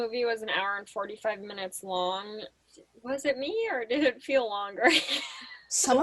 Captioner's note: laughs